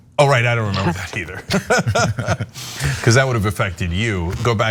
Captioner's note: laugh